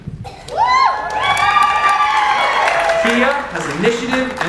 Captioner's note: audience cheers and applauds